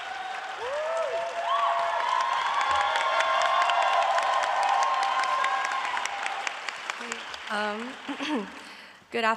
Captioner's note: cheering and applause